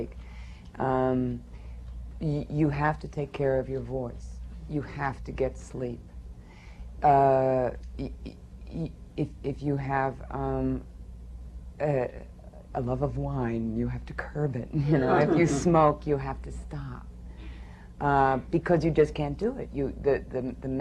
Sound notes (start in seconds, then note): 14.8 laughter